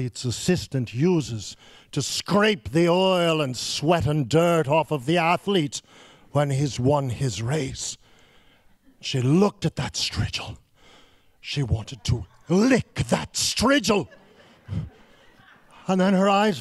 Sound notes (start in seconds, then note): 13.8 laughing